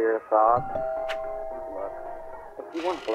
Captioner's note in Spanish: ding dong! someone is at the door!